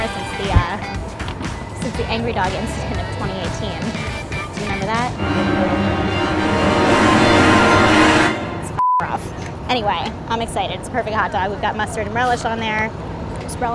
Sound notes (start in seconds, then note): 5.1 intense music; 8.7 beep